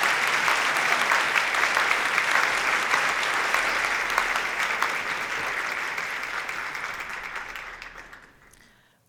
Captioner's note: applause